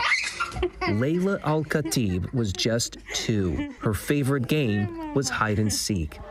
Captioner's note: child laughing